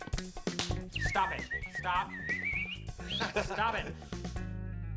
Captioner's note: chuckles; both whistle